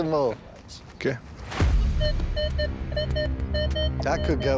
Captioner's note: beeping